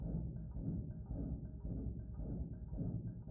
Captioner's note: heartbeat